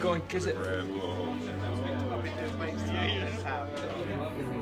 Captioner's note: chattering